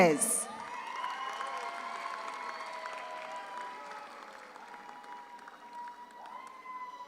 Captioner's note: audience cheers; audience applauds